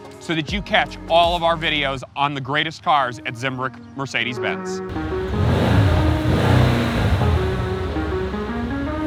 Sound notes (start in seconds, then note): 4.9 engine roaring